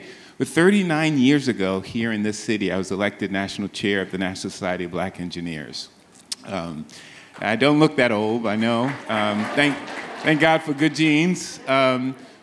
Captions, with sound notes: But 39 years ago here in this city, I was elected National Chair of the National Society of Black Engineers. I don't look that old, I know. (audience laughs) (audience applauds) Thank God for good genes.